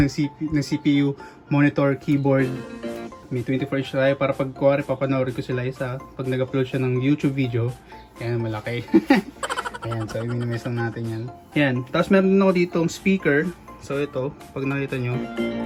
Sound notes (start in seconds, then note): 8.9 laughs